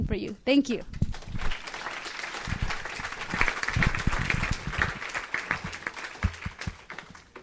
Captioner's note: audience applauds